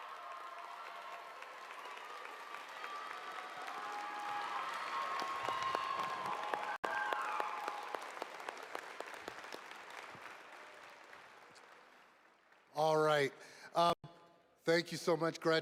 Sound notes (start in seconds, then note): 3.1 applause